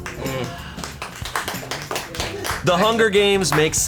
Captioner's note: colleagues applauding